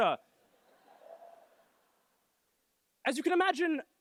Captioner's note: laughter